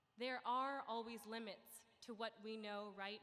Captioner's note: none